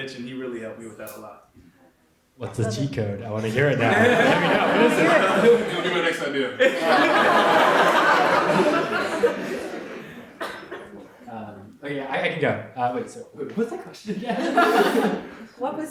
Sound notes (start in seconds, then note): 7.7 audience laughs